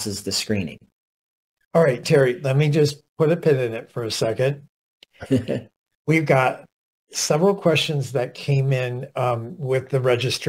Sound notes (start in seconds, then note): 5.2 laughter